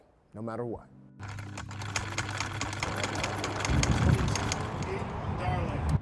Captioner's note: sewing machine hums